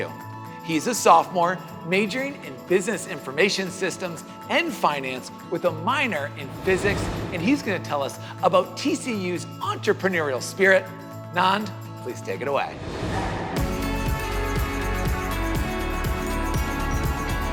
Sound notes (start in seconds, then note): 12.7 air swooshing; 13.5 upbeat music